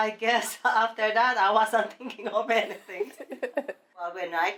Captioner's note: laughing